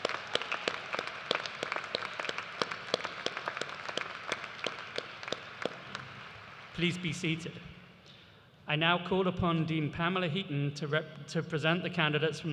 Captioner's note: cheers and applause